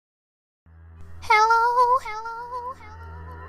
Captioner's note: echoes